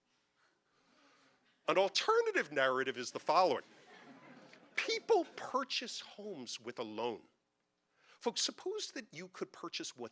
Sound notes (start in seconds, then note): 3.6 audience laughing